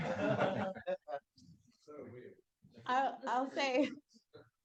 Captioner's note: audience laughs